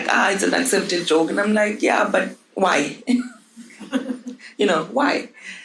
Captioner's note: chuckles